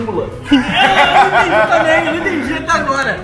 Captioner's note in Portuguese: risadas